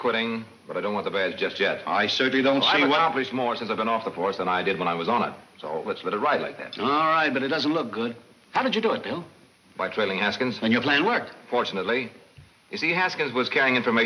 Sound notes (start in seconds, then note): none